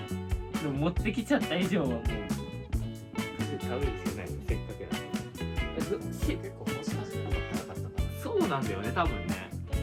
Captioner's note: laughs